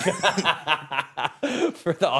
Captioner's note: laughing